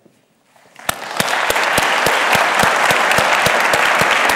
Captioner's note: audience claps